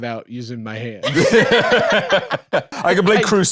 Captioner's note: laugh